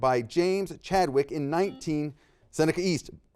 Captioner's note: buzzer dings